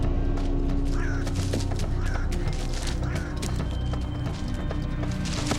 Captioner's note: bird squawking